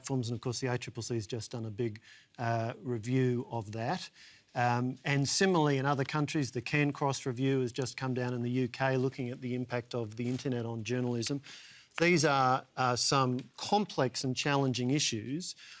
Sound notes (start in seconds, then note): none